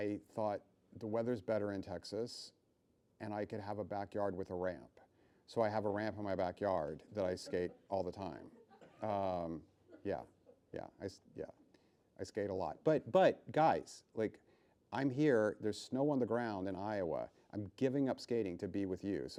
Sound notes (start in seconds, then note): 10.0 laughing